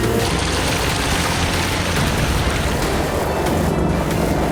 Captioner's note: water splashing